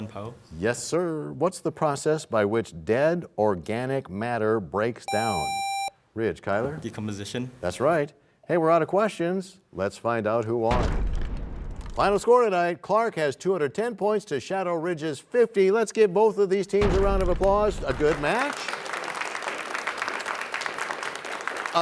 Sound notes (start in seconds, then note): 12.3 crashing sound; 20.1 applause